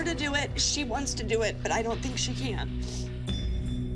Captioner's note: sniffles